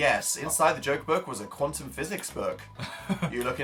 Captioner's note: laughs